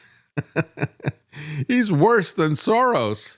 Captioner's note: laughs